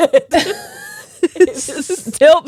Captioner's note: both laughing